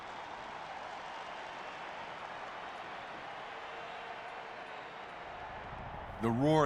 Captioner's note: crowd cheering and applauding